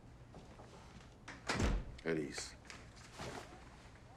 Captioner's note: door closes